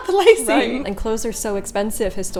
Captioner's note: laughing